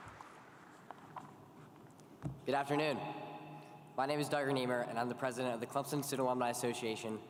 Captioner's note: applause